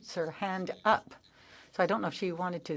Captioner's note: speaking French